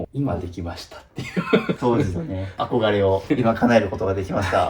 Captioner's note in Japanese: 笑い